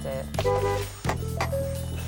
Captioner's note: horn honks